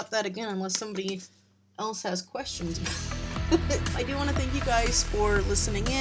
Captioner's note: laughs